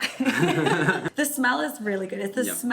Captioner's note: laughs